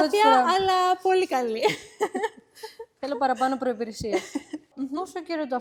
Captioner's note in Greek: γέλια